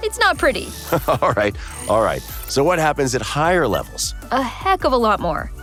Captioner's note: laughter